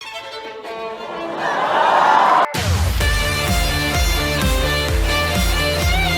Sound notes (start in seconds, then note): 0.8 audience laughs; 3.0 upbeat violin music